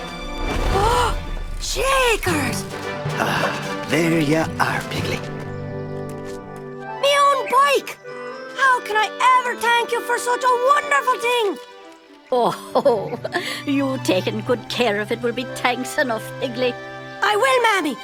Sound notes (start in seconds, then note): 1.1 gasps; 12.4 laughing